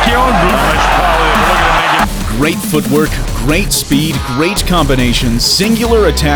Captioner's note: crowd roaring